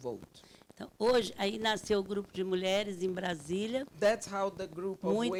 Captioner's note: speaking Portuguese